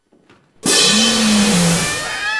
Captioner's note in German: Brüllen